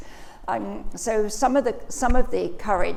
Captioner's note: none